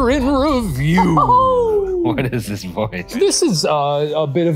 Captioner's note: cheering